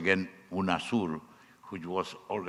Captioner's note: speaking foreign language